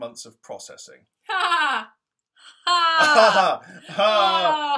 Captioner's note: sarcastic laugh